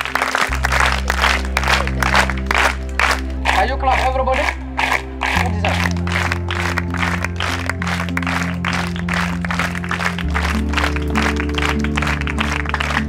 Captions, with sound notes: [clapping] Can you clap, everybody? She deserves it.